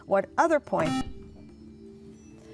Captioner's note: beeping